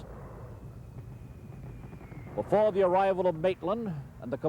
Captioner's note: mortar fire booming